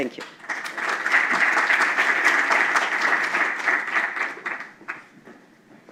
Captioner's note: applause